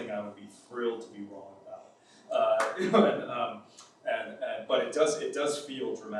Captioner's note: laughs